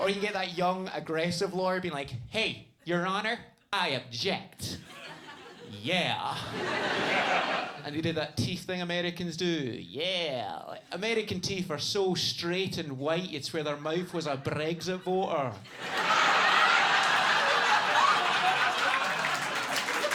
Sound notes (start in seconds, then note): 6.3 audience laughs; 15.6 audience laughing and clapping